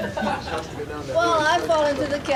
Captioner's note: audience laughing